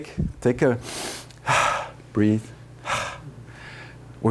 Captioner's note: breaths deeply